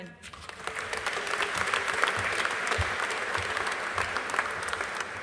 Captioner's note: audience applauding